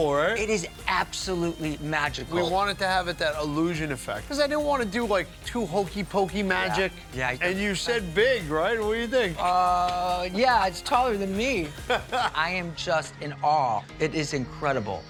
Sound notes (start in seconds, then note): 11.8 Buddy laughing